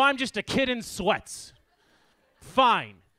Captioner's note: audience laughs